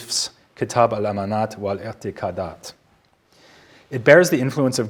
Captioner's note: speaking in foreign language